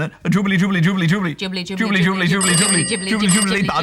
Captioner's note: phone rings